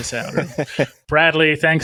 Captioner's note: laughing